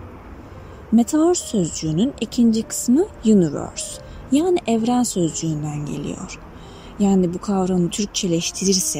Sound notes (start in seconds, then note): 5.2 in Turkish